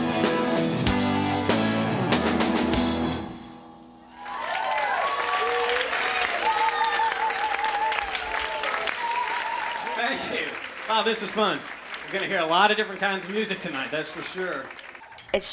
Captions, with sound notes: (crowd cheers) Thank you. Wow, this is fun. You're going to hear a lot of different kinds of music tonight, that's for sure.